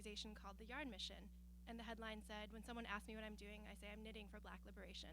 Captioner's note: none